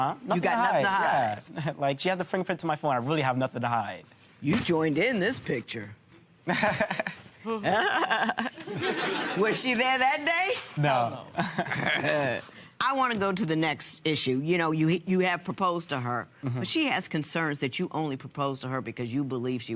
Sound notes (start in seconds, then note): 6.5 imitates laugh; 7.0 laughs